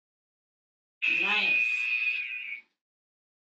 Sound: alarm blares

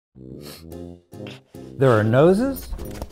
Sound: sniffing

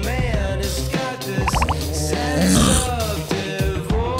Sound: snoring?

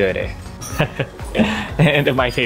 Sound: chuckles

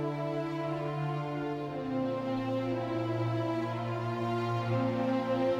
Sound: none

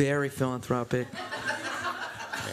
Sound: laughter

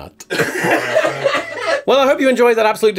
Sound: laughter

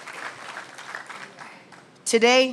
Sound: applause

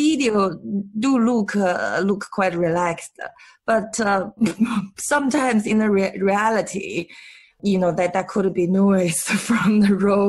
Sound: laughs

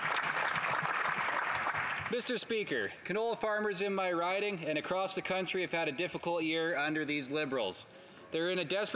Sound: some Applause

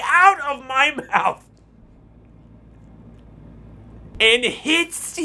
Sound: laughs

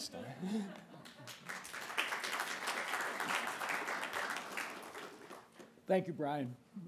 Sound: applasue

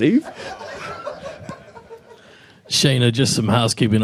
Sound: people laughing

